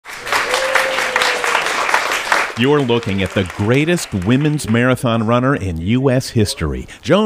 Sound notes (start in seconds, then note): 0.0 people applauding